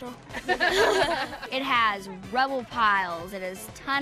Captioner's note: all laugh